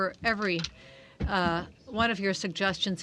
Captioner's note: speaking French